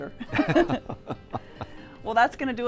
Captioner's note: both laugh